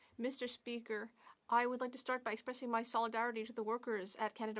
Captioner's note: speaking French